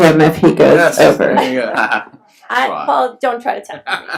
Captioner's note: laughs